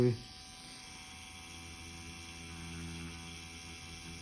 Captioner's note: machine whirring